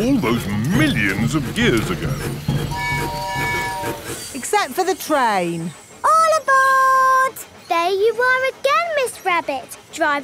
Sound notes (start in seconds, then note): 2.7 train tooting